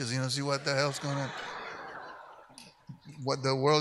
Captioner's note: audience laughs